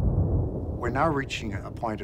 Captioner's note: thunder crashing